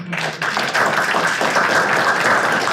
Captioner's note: audience applauds